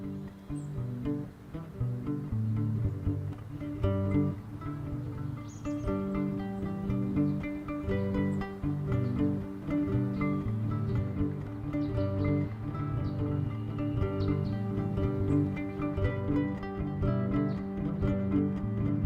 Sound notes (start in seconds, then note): 0.3 mellow music playing; 5.3 birds chirping